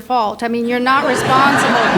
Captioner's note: audience laughs